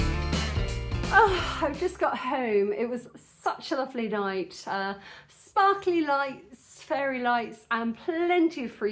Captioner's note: sigh